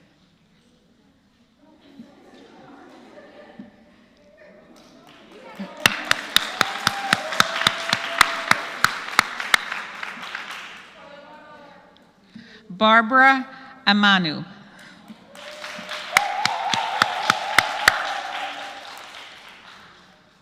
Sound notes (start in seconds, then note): 4.7 applause; 15.2 applause